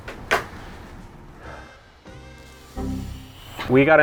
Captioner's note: sigh